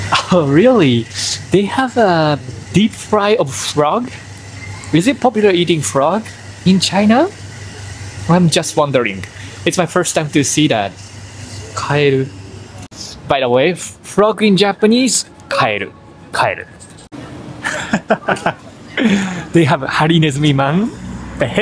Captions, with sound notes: Oh, really? They have a deep fry of frog. Is it popular eating frog in China? I'm just wondering. It's my first time to see that. Kaeru. By the way, "frog" in Japanese... "Kaeru" [LAUGHS] They have harinezumi-man.